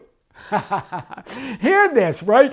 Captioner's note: laughs